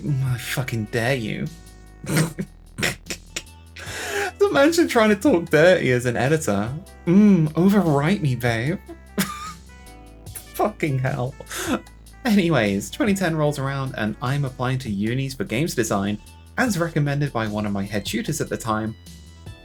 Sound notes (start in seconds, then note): 2.8 snorts and chuckles; 9.2 laughs